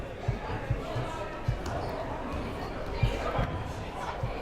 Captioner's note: crowd murmuring